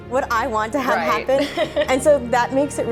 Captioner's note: laughing